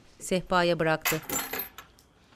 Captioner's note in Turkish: Anahtar sesi